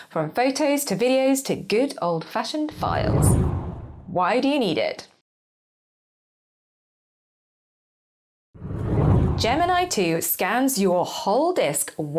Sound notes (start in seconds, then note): 2.7 screen whooshes; 8.6 screen whooshes